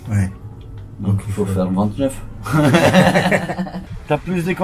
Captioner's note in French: rire